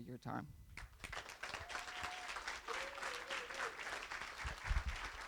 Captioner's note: applause